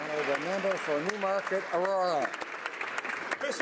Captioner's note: some Applause